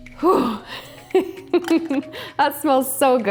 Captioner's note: laughs